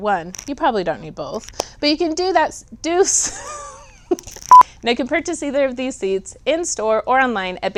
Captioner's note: blooper beep